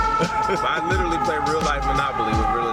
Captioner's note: laughs